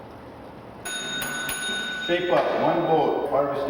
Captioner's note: bell rings